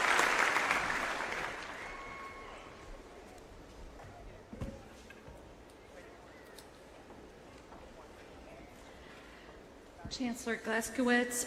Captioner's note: applause